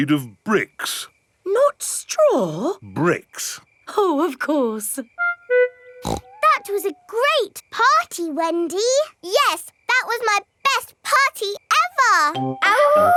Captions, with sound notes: It's made of bricks! Not straw? Bricks. Oh, of course. (SNORTS) That was a great party, Wendy! Yes, that was my best party ever!